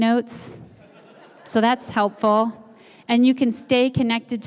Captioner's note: laugh